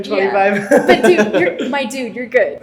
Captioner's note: laughs